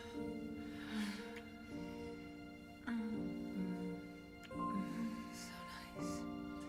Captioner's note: moaning